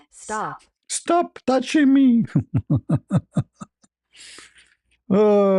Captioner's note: ketawa